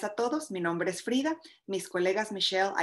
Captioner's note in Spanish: en español